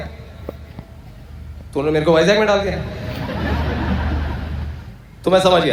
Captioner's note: audience Laughter